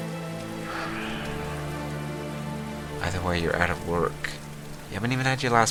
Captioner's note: sighing